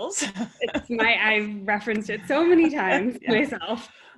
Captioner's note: laugh